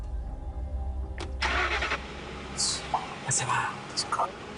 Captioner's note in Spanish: Ruido de motor